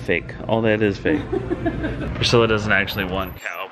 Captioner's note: laughs